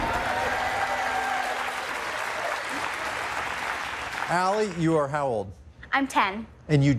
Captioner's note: cheers and applause